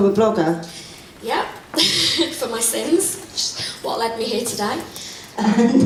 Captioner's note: laughs